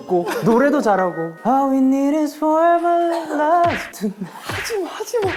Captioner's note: slap